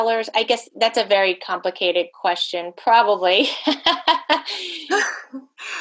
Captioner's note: laughing